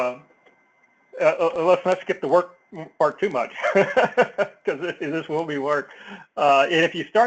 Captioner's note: laugh